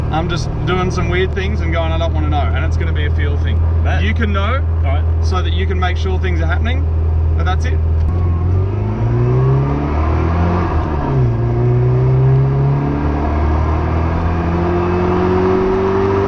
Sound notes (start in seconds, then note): 8.1 engine accelerating